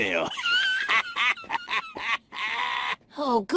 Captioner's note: laughs